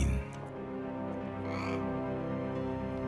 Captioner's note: parrot squawks